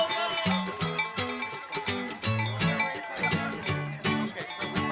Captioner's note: cow bells ringing; gentle folksy music